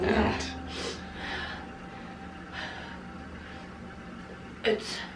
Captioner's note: breathing heavily